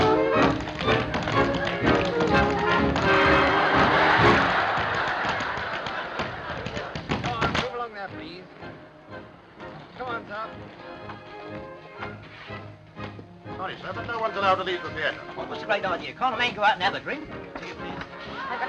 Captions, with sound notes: [ laughter ] [ tapping continues ] Come on. Move along there, please. Come on, sir. - No one's allowed to leave the theater. - Can't a mate go out and have a drink? - Ticket, please. - I'm just looking for someone.